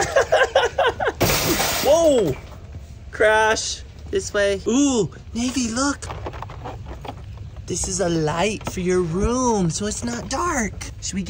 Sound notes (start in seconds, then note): 1.2 shopping car crashes